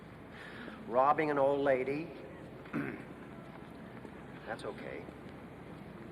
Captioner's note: clears throat